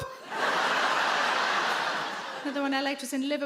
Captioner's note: audience laugh